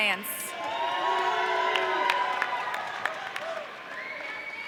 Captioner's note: audience cheering